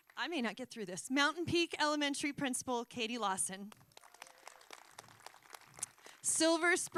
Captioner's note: applause